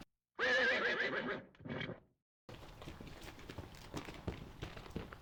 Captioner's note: horse neighing